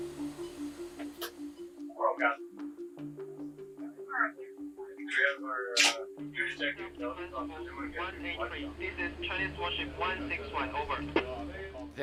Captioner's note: indistinct chatter